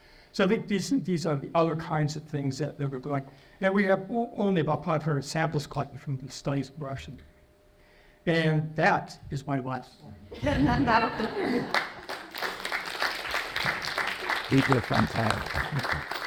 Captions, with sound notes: So I think these are the other kinds of things that we're going and we have only about 500 samples collected from the studies brushing and that is my wife. (laughter) (applause)